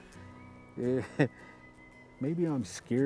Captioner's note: chuckles